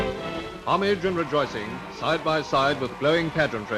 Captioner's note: voiceover